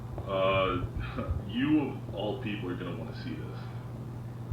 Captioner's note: scoffs